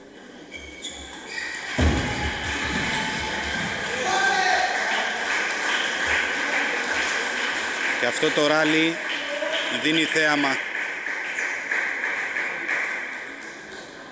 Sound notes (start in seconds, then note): 4.5 applause